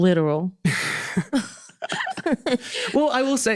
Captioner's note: both laughing